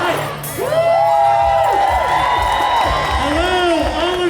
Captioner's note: cheers